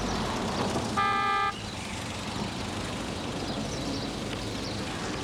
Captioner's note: car horn blaring